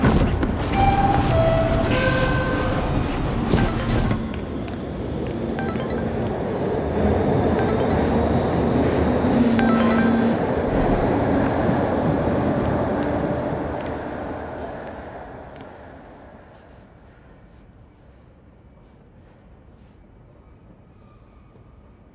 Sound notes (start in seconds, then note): 0.0 thud and fabric noise; 5.3 phone beeping and vibrating; 17.0 quiet station